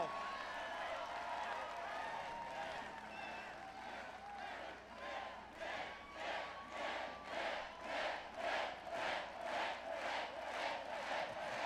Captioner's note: Crowd chanting "Mitt"